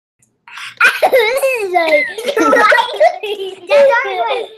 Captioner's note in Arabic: يضحكون أطفال